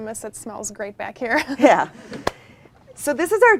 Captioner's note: both chuckle